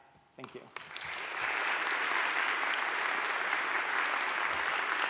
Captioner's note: audience claps